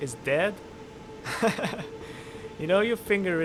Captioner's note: pitiable laughter